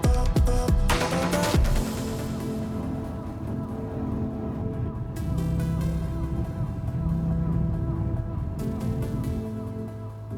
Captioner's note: sound of driving, windnoise